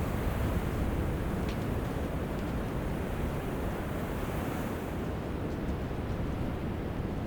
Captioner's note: sound of distant waves